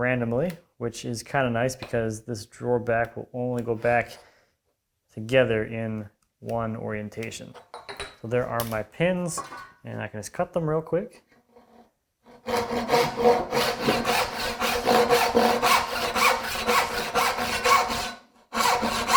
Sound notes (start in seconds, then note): 7.6 metal on desk clinking; 12.3 saw on wood rhythmically rasping